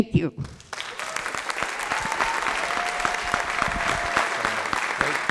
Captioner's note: applause